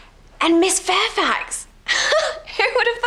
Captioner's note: she laughs